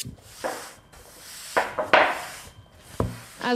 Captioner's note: knocking